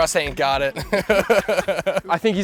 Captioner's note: laughing